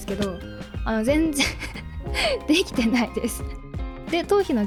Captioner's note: laughs